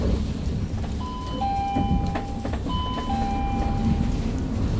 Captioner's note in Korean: 하차벨 소리